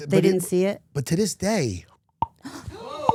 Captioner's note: clicks his jaw; crew gasping